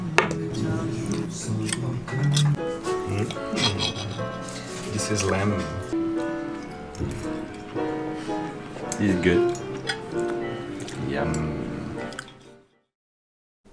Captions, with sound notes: (objects clattering) (cutlery clinking) This is lamb. (cutlery clinking) Is it good? Yum.